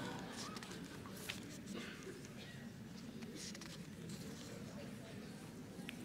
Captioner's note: audience laughing; audience murmuring